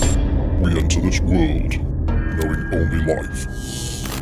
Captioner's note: voiceover